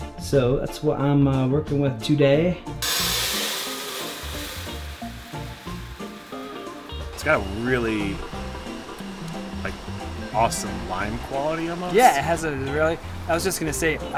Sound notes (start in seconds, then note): 2.7 grains pouring into grinder